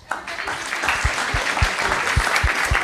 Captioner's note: applause